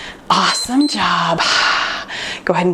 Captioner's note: timer beeps